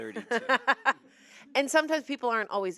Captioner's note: laughs